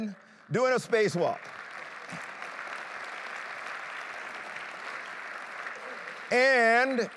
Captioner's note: applause